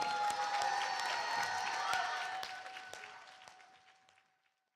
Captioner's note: applause and cheering